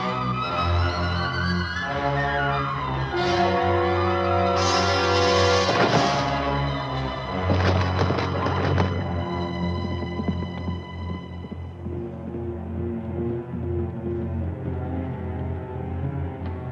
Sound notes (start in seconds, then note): 5.7 Gustaf thuds; 11.8 brooding music